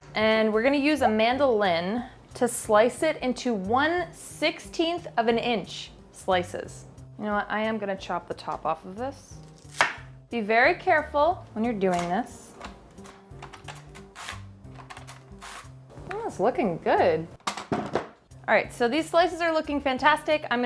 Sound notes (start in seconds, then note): 9.6 knife chopping; 13.9 mandolin slicing